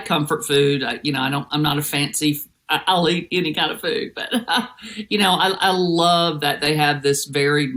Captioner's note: laugh